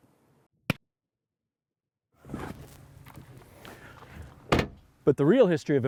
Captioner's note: book closing